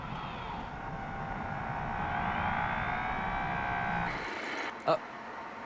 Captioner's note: whirring